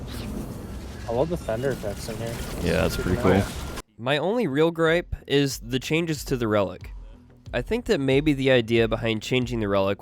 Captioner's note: thunder